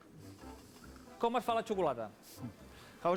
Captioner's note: non-english speech